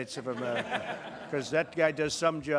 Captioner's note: laughter